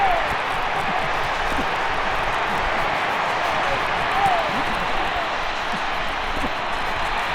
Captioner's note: crowd cheering